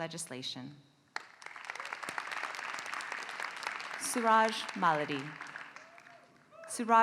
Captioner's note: applause